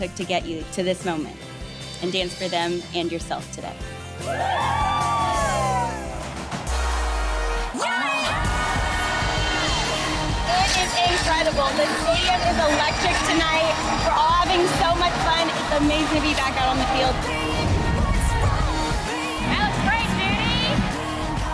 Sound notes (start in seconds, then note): 4.2 ladies cheering; 17.7 upbeat modern dance music